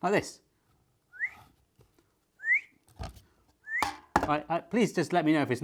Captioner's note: whistles repeatedly